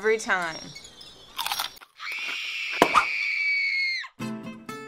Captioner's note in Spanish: ¡crujido!; gritos, pop!; gritos